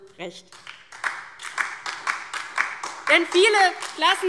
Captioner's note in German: Beifall DIE LINKE